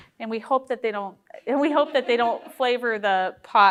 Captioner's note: group laughing